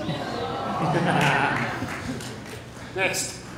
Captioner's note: applause